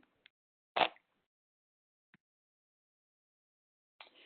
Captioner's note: sliding static